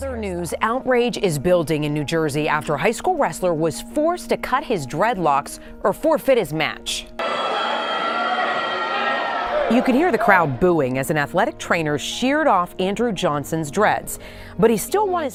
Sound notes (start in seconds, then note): 7.2 crowd booing